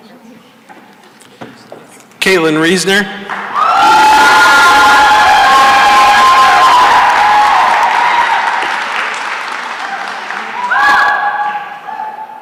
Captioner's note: cheering and applause